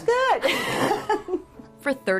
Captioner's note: laughs